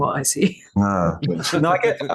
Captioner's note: laughs